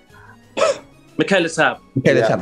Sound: laughs

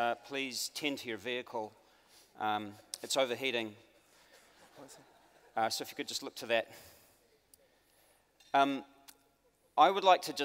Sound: audience laughs

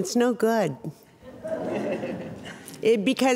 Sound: audience chuckling

